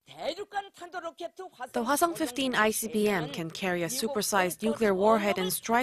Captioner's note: Korean